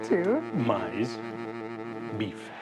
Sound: in Portuguese

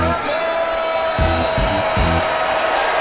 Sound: dinging

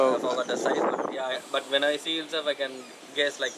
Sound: wind blows

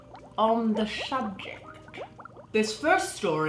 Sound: water bubbling

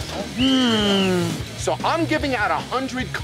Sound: whistle blown

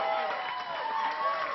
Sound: applause

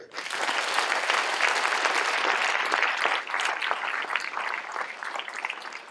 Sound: applause

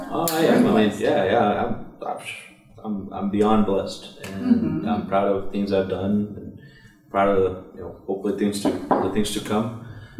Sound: knocks on wood

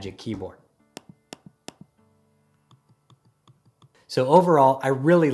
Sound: trackpad clicking

